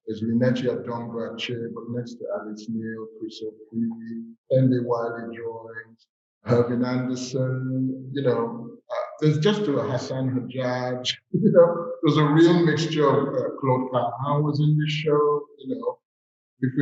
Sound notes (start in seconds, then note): 8.9 chuckles